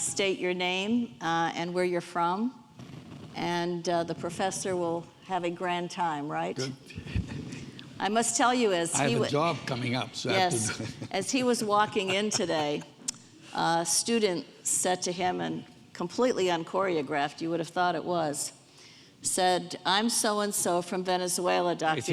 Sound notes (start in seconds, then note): 6.6 laughs; 10.3 laughs